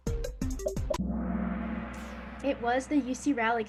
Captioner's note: gong